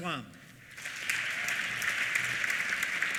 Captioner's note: applause